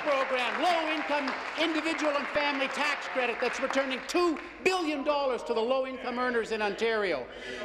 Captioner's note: applause